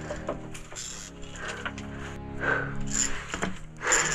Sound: ominous instrumental music; climbing equipment rustling; breathing deeply

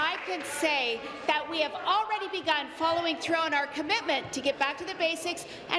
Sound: applause

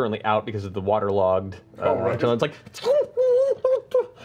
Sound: whimpers

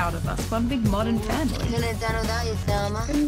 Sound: slurring

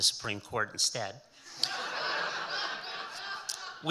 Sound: audience laughing

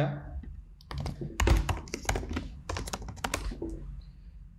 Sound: tapping keyboard

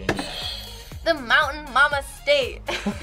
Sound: buzzer rings; both laugh

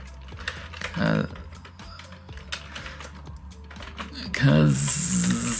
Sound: groans

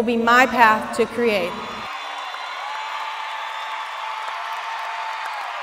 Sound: graduates cheering

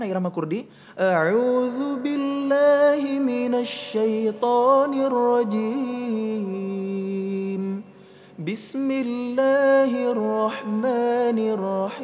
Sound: recites quran

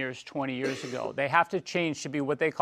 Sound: cough

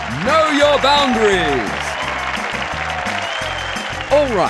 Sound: applause and cheers

